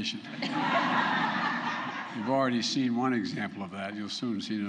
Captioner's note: laughter